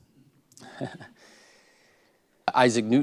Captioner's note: laugh